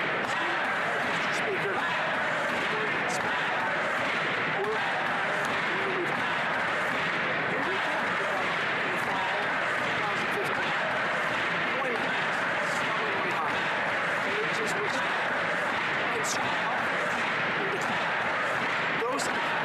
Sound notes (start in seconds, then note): 5.6 chanting; 17.8 chanting